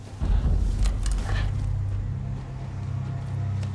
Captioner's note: panting